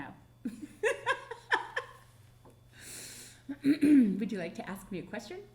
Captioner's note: laughing